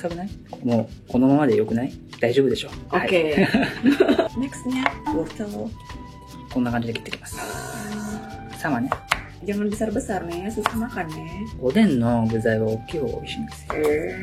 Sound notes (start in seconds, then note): 3.3 laughs